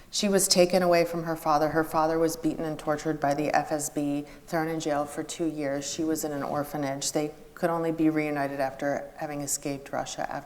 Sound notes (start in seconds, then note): none